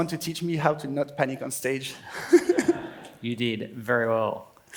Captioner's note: laughs